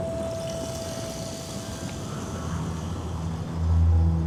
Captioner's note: wind blowing